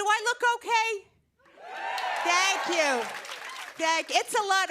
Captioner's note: cheers and applause